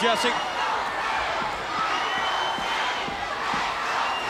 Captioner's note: crowd cheering; crowd whistling